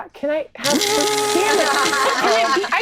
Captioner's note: imitates blender whirring